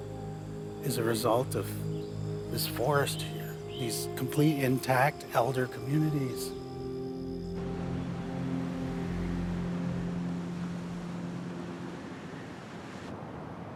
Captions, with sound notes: is a result of this forest here, these complete intact elder communities. (waves lapping)